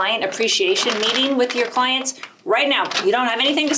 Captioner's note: bag rustles